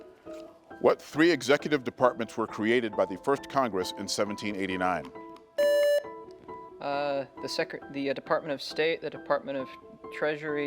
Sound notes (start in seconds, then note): 0.0 gentle music; 5.6 buzzer beeps